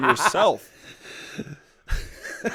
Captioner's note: laughter